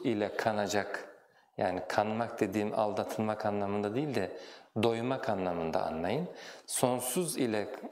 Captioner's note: in Turkish